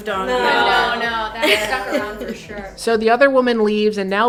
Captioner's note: collective disagreement